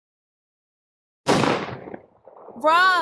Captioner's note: gunshot